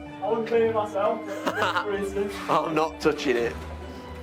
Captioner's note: chuckles